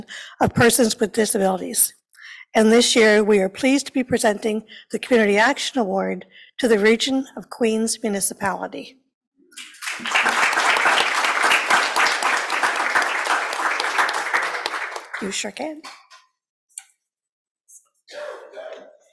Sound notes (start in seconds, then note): 9.5 applause